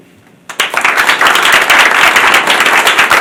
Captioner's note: applause